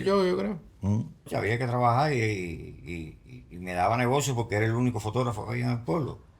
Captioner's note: speaking in foreign language